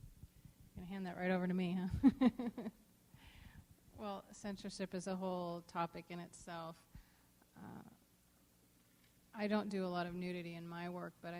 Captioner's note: laughs